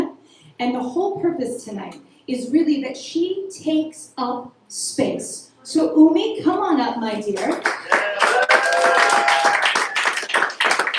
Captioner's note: applause